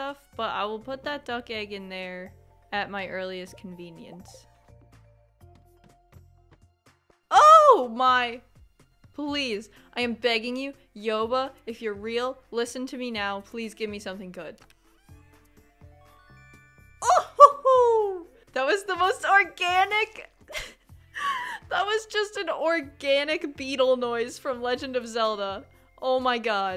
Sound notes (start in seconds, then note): 16.8 mario sound